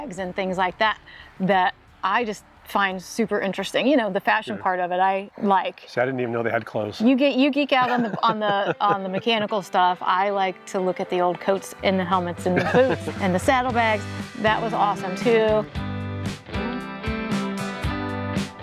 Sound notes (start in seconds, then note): 7.8 laughing; 12.4 laughing; 15.9 rock music